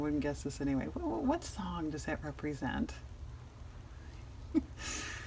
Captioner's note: laughs